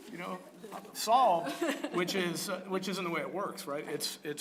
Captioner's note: laugh